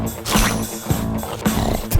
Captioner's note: snorts and spits